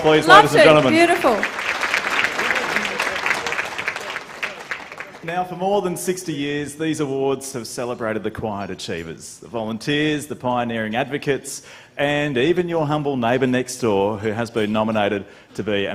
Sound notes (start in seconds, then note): 4.2 applause